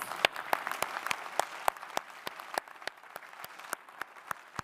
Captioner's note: audience applauding